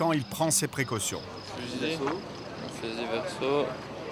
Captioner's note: French spoken audio